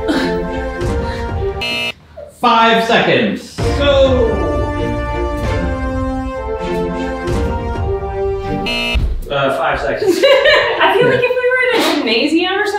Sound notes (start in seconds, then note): 0.0 laughing; 1.6 buzzer beeps; 3.6 circus-like music continues; 8.6 buzzer beeps; 10.0 laughing